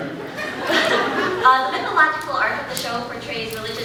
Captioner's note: laughs